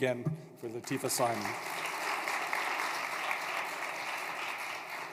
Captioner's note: applause